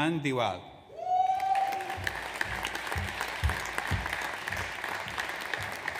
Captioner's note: audience applauds